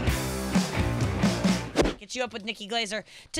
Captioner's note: upbeat music; air whooshes